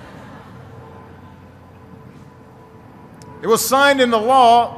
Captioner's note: laughter